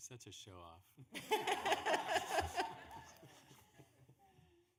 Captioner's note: laughing